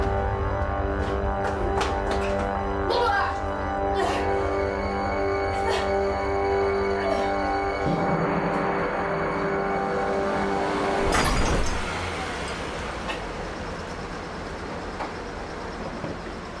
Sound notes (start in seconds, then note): 0.1 suspenseful music; 3.3 vomiting; 10.8 car smashing